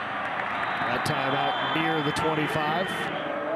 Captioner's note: referee blows whistle